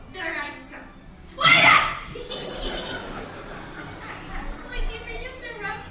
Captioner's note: shouts; giggles